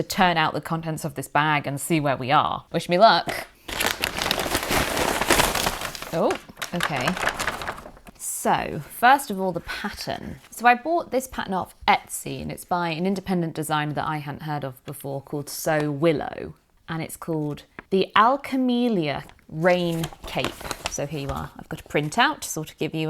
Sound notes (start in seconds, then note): 3.5 paper back rustling